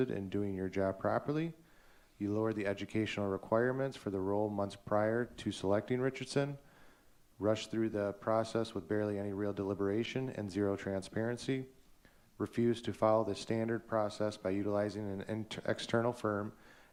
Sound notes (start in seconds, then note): none